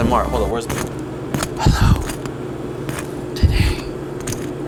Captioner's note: scraping